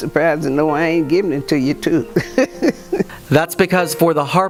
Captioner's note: laughs